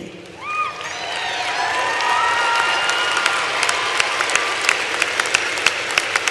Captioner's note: applause